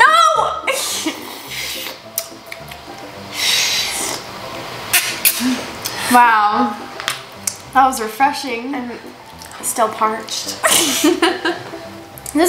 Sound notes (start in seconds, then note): 1.2 slurps; 1.6 smacks lips; 3.3 both slurping; 10.6 both laugh